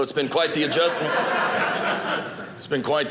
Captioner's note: audience laughing